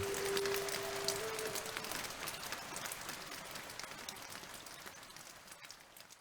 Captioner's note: sound of rain falling gently